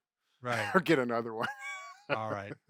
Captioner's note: laughs